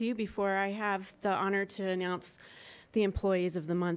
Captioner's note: none